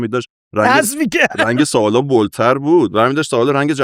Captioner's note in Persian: خنده